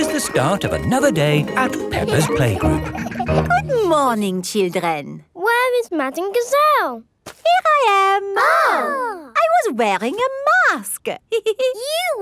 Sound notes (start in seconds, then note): 8.3 exclaiming; 11.3 giggles